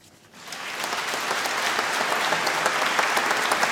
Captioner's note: applause